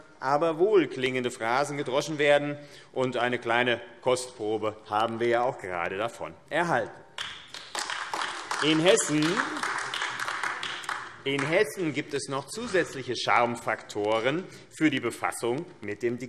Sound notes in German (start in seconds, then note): 7.1 Beifall AfD